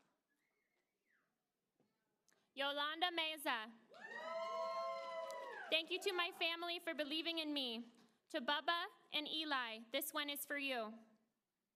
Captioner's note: applause